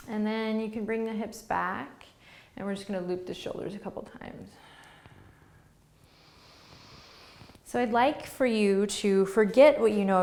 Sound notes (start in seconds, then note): 4.5 breathing